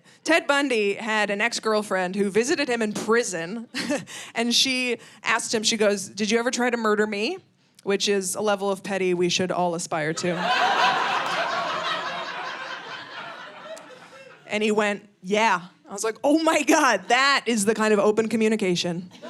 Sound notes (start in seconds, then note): 10.2 audience laughing